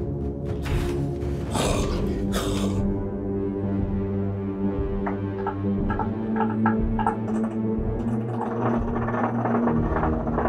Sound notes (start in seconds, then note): 1.5 snarls